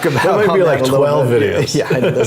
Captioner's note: laugh